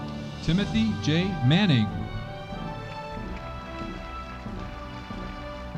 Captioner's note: audience applauding